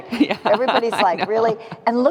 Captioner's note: laughing